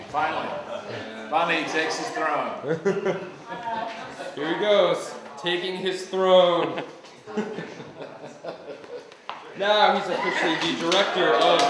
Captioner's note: laugh; laughter